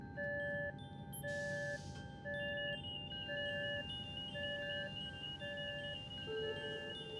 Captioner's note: device beeping